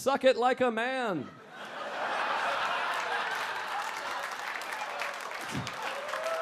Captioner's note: audience laughing and clapping